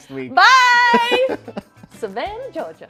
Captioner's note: all laughing